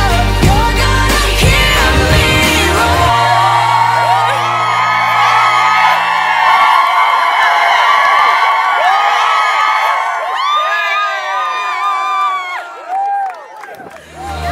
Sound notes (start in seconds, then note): 4.4 crowd screams